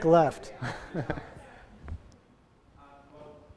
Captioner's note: laughing